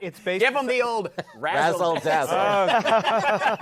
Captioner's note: laughter